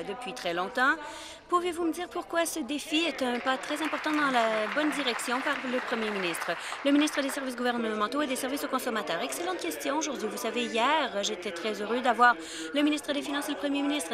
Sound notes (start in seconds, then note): 7.2 applause